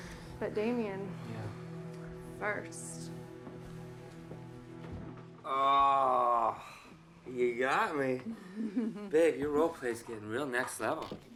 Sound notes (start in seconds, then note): 8.3 Joan laughing